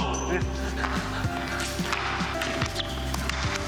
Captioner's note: laughs